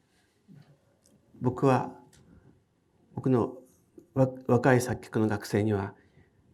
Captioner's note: speaking in foreign language